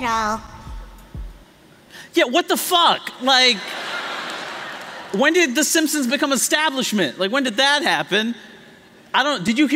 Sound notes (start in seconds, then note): 3.6 laughter